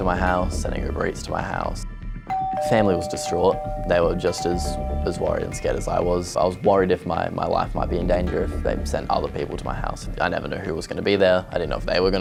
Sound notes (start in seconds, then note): 2.3 doorbell rings